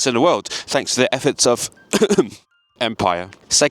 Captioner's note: ahem